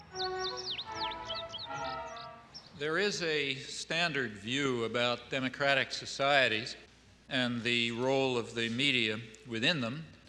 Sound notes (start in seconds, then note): 0.0 gentle music; 0.0 birds twittering